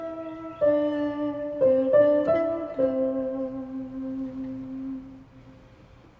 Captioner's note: humming; piano music